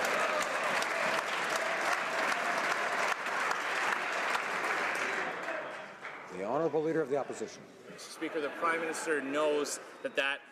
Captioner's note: some Applause